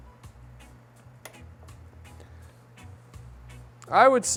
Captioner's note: clicking